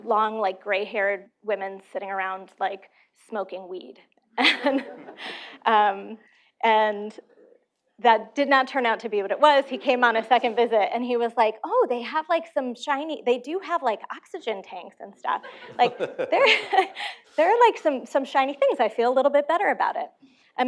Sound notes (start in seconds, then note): 4.4 laughter; 15.4 laughter